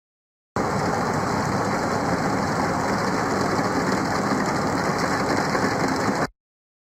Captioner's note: ambient air whooshing; rain gently falling